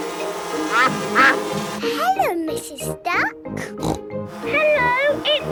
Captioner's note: quacking; snorting